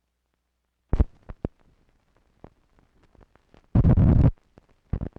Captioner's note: static crackling